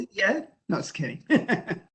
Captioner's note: laughs